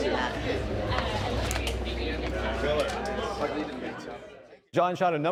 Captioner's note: chatter